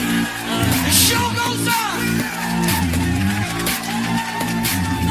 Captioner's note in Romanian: Aplauze